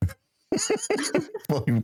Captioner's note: laughing